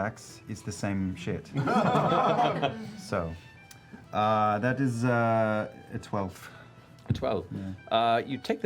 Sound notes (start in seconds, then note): 1.5 laughter